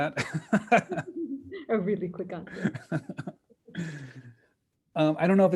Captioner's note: laughing